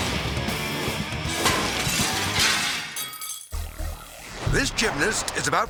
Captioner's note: energetic music; glass shattering